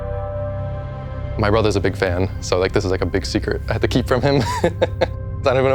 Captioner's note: laughs